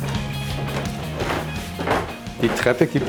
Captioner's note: creaks